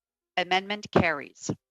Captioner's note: speaking in French